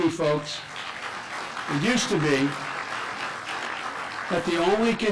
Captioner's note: clapping